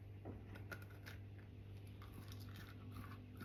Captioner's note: crunch